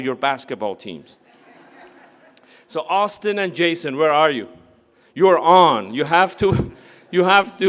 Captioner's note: laugh